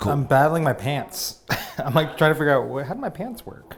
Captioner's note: laughs